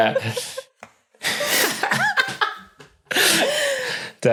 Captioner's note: giggles; cackles; blurts soft cackle